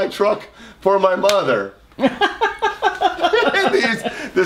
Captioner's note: laughs loudly